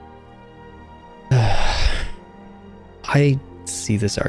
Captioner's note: sigh